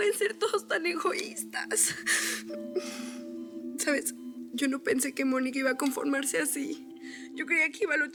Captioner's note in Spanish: solloza